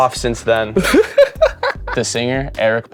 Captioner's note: laughs